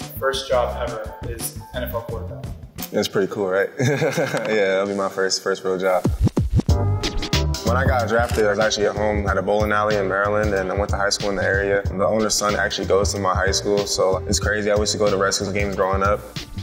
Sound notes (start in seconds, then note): 3.8 laughs; 6.0 upbeat music